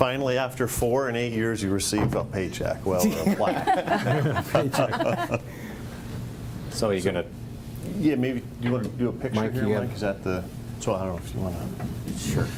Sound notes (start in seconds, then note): 3.0 group laughs